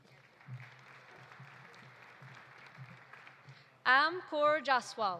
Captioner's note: audience applauding